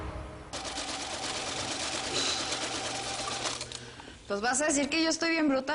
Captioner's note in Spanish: Ruido de la máquina